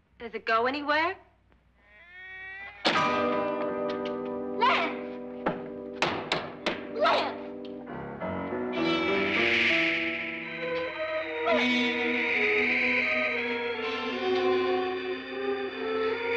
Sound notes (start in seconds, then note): 2.8 door slams; 3.0 suspenseful music; 6.0 banging on door; 7.2 suspenseful eerie music